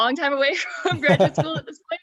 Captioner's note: laughing